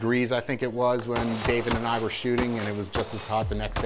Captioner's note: gunshots bang repeatedly